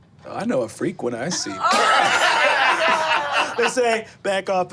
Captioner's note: group laughing